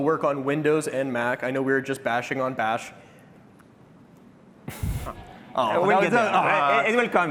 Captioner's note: laughter